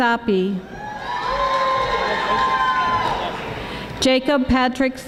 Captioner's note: audience applauding